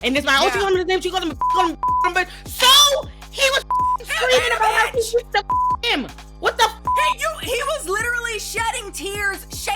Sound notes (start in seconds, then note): 1.8 beep; 3.6 beep; 5.4 beep